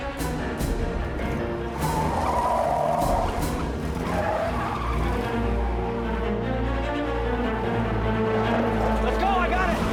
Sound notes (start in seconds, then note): 1.4 tires screeching